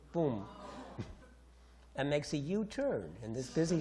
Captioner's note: audience groans